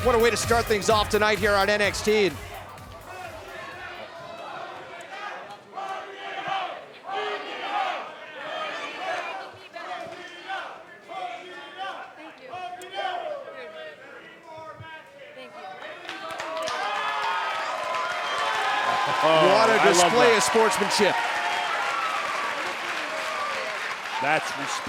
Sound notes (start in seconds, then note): 9.7 fans chanting; 16.6 cheers & applause